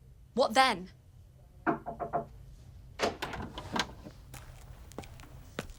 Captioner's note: knocking at door